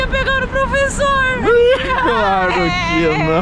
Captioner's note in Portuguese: risos